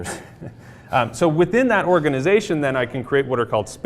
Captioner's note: laugh